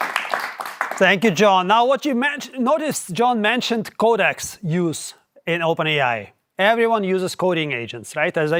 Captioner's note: applause